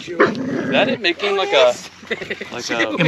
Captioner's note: dog growling